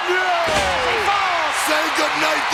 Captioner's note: audience cheers